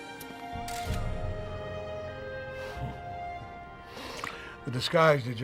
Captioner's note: camera shutter clicking